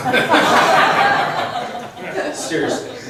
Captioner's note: laughs